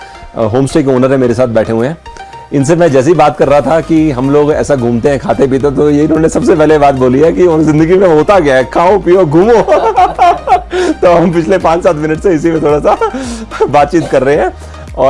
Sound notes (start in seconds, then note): 9.4 both laughing